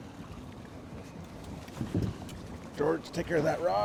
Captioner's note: boat engine idling